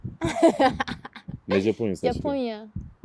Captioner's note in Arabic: ضحك